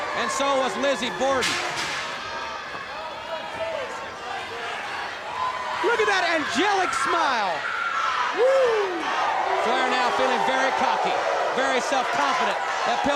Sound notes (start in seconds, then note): 2.8 crowd clamoring